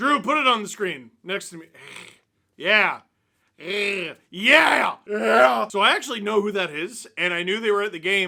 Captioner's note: hiss